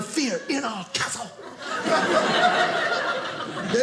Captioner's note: audience laughing